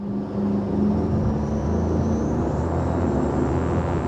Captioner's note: engine roars